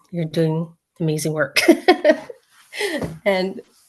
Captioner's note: laughs